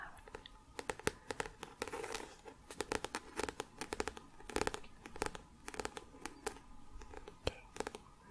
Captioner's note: tapping on book